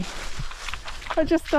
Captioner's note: squelch squelch